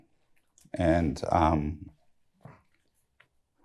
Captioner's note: voice breaking